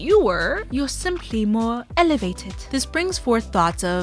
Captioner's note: “British” accent